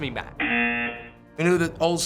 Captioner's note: buzzer